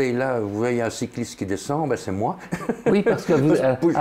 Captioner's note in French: rire